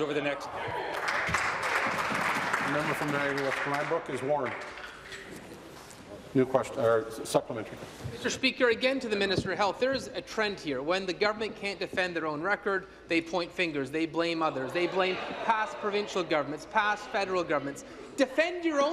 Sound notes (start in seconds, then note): 4.5 applause